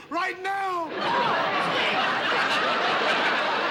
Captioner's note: laughter